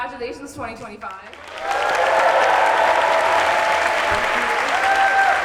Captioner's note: applause, cheers